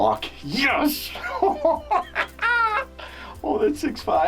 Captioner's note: laughing